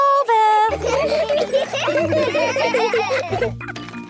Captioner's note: laughter; grunting